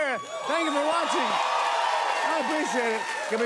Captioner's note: cheers and applause